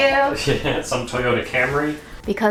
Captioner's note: laughs